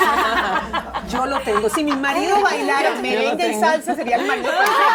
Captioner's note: laughs